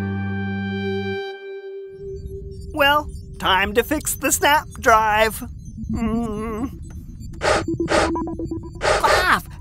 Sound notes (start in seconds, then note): 0.0 energetic Music; 1.5 spaceship hums and beeps; 6.6 Melder and Snap Drive sounds